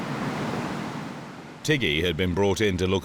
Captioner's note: water whooshing